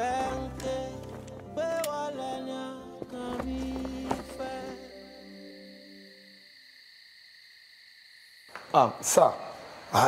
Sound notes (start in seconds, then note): 4.8 crickets chirping